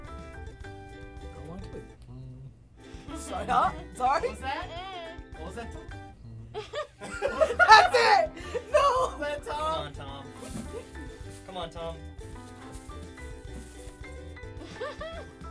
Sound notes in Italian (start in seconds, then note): 6.5 risata; 6.6 mormorando; 14.6 ridacchia